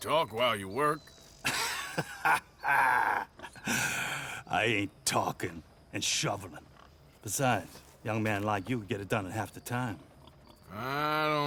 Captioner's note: laughs